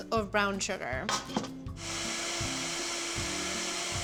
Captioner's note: whirring